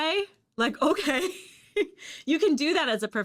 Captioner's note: chuckles